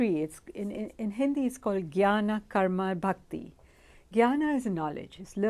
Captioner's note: hindi